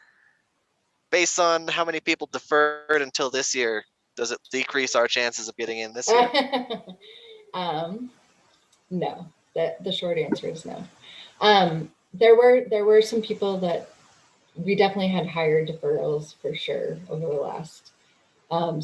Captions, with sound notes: based on how many people deferred until this year, does it decrease our chances of getting in this year? [laughs] No. The short answer is no. There were some people that... We definitely had higher deferrals for sure over the last,